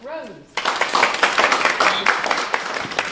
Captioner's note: applause